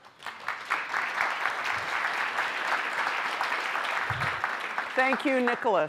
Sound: applause

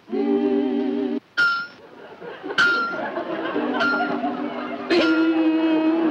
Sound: metal clanging

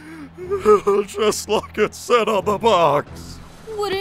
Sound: sobs

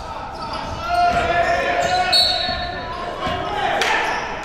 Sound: cheering and yelling; whistle blows

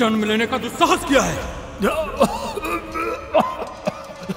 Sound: retches

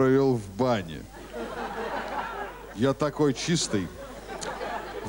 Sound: laughter

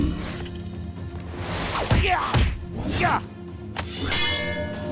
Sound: grunting

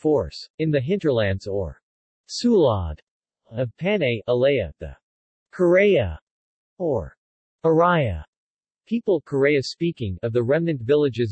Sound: Karay-a-speaking

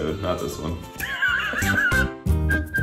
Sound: laughing; upbeat music

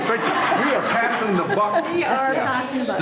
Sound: everyone laughing

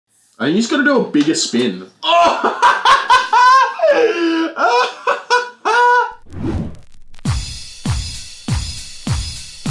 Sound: laughter

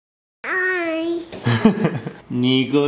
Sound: laughs

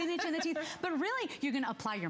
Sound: laughter

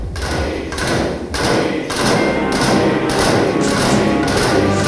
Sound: men chanting "Dimitri"

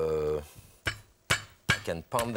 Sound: hand smashing

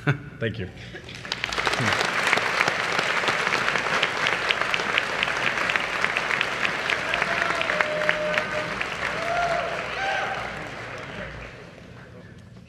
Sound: applause

